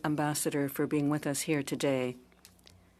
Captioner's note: speaking in French